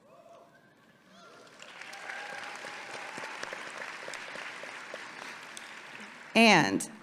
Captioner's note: audience applauding and cheering